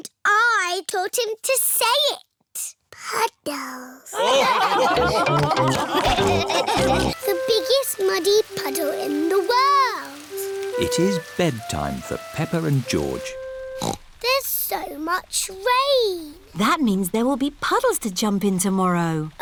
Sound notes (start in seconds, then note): 4.1 laughter; 13.8 snorts